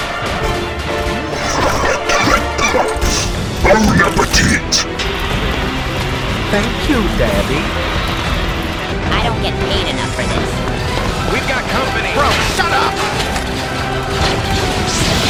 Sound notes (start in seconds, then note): 1.2 dry coughing